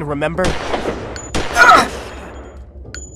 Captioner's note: death Scream